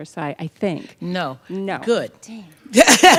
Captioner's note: laughter